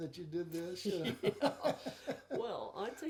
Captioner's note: chuckling